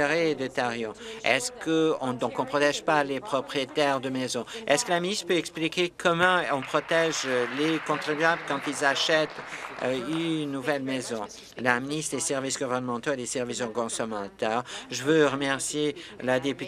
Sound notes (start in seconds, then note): 9.2 applause